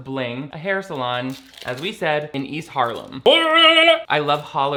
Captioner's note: yells